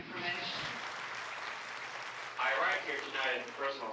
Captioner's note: group applauding